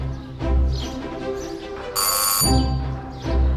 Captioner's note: the doorbell rings